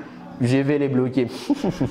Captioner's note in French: rire